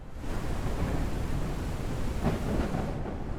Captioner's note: heavy rain and thunder; muffled sounds of rain and thunder